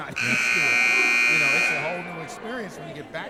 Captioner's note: buzzer sounding